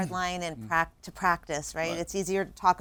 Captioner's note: clears throat